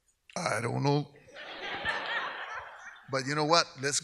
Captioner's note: audience laughs